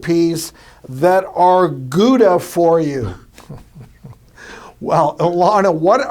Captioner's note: laughs